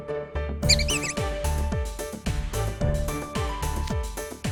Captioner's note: squeaks